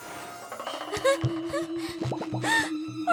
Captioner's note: gasping